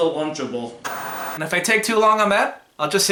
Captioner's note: static